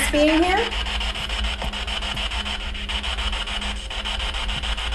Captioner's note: static buzzing